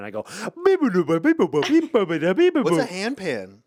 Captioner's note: Ian hums